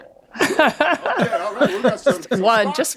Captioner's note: all laughing loudly